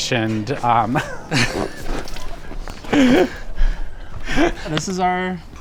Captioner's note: both laughing